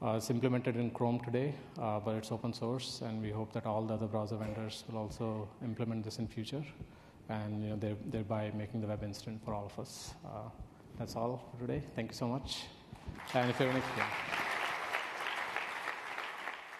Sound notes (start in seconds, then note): 13.0 applause